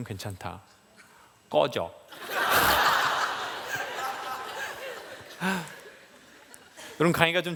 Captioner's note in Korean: 웃음